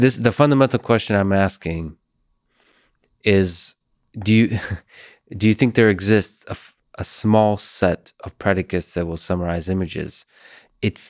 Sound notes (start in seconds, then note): 4.1 chuckles